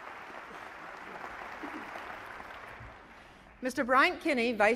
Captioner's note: applause